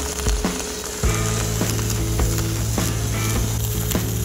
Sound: welding noise; upbeat music

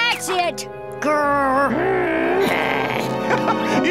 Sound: growling

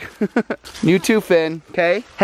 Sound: giggles

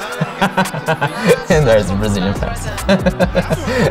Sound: laughing

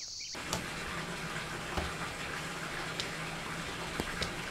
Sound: water runs

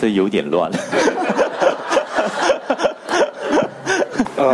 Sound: speaking in foreign language; laughing

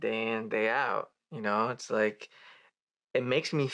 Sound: he inhales

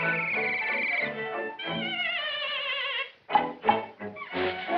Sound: neighs

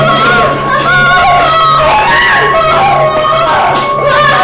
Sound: Emman wailing

